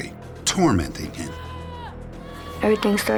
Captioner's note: screaming